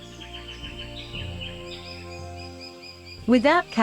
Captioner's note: birds chirping